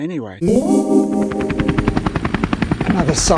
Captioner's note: ethereal zing and helicopter sound